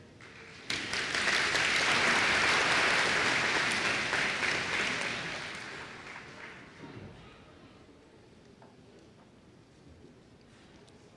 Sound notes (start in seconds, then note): 0.0 applause